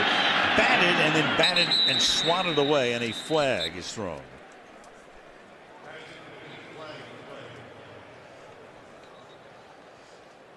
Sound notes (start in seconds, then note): 6.5 pa announcement